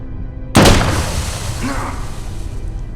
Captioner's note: gun firing